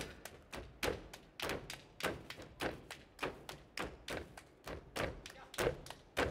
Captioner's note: hands clapping and feet stomping